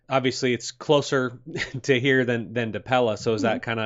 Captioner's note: chuckles